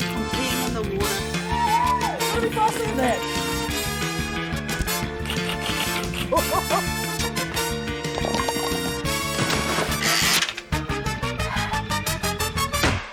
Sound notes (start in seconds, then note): 5.3 keys clack; 8.1 pins clatter; 9.4 splash!; 10.1 wheel clicks; 11.4 exhales; 12.9 clunk!